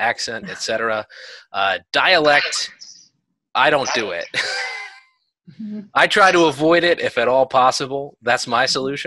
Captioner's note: laughter